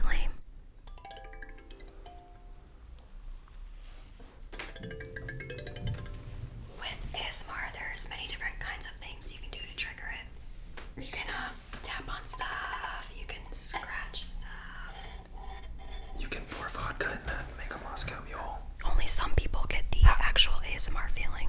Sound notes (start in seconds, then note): 12.2 tapping on metal; 14.7 scratching on metal